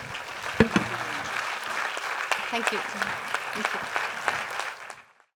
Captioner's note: applause